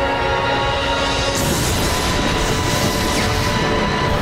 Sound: electricity crackles

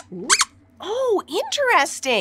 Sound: squeaks squeaking

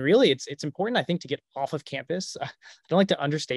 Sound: chuckles

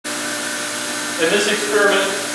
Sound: high-pitched motor in background

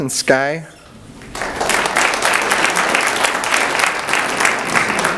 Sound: audience applauds

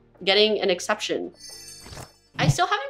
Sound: jingling sound

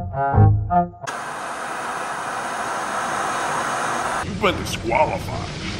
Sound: static buzzing

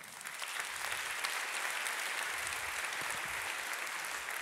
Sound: audience applauding

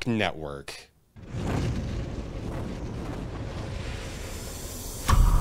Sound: nighthawk wings flapping

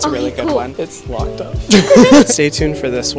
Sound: laughter

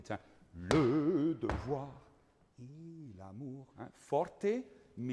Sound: speaking in foreign language

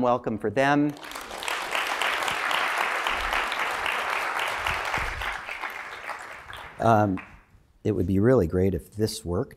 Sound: applause

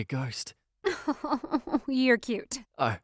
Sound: laughs

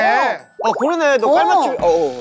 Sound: chatting

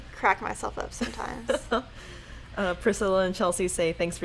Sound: laughing

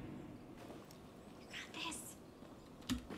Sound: whispers

